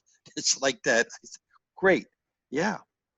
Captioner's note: laughs